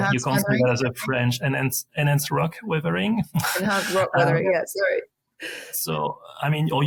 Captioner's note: laughing